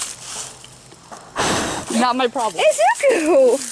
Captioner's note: blows